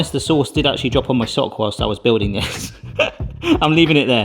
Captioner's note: chuckles